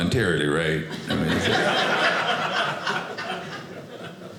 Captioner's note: audience laughing